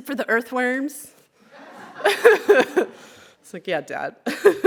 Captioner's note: laughter